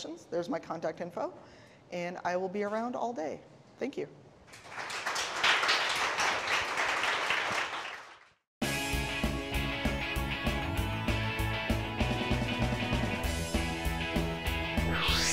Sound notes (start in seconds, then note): 4.4 applause; 8.6 upbeat rock music